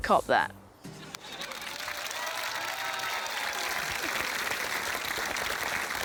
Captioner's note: cheering, applause